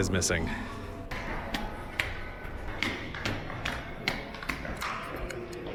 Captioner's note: loud foot steps on the marble stairs